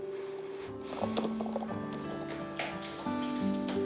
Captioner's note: fingers tap keyboard